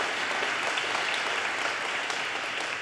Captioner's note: audience applause